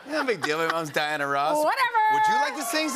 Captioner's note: cheers